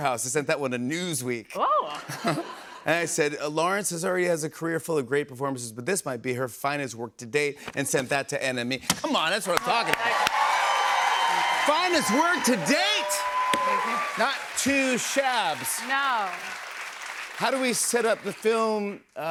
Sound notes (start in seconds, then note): 10.2 cheers and applause